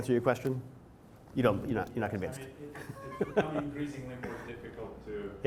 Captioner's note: laughs